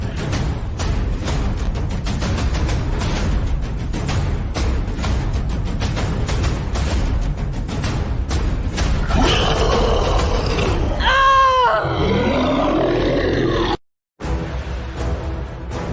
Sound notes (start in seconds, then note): 0.2 war Drums; 9.0 monster Roar; 10.1 shouting; 14.2 intense Action Music